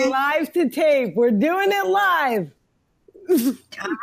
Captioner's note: chuckles